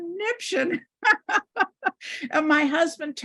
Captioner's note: laughs